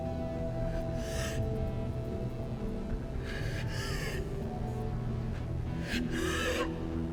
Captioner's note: labored breathing